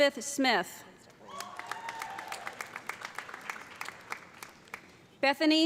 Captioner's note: audience cheering; audience applauding